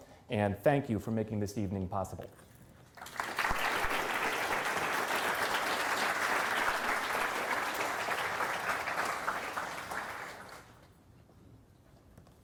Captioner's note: applause